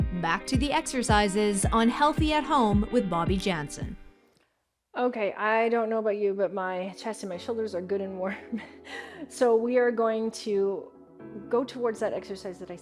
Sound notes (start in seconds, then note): 8.4 chuckles